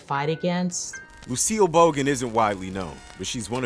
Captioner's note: voiceover